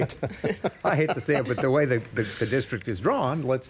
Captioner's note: laughter